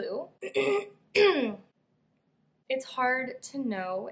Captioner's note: clears throat, which is still irritated from the last illness